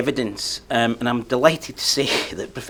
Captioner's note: chuckles